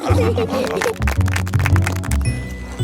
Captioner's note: laughing; clapping